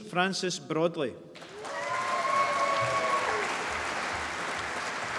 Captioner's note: applause